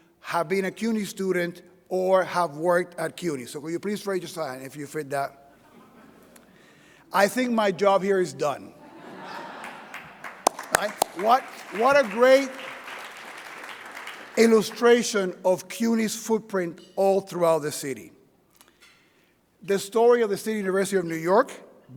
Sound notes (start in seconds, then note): 8.8 audience laughing; 9.5 audience clapping